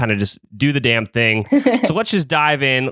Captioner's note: laughs